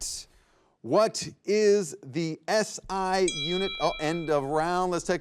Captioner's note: bell chimes